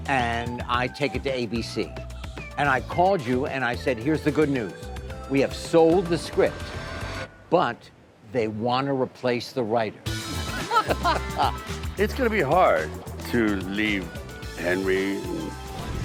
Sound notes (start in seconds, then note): 10.2 group laughing